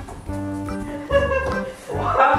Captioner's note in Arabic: يضحك